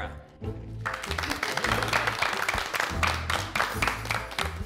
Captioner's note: group applauding